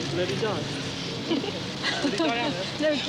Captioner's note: laughing